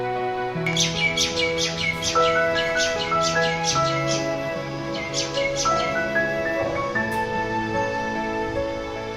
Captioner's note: birds Chirping